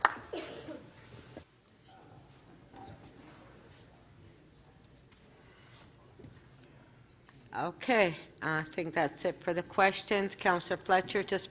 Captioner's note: applause